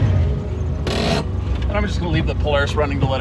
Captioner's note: brake ratcheting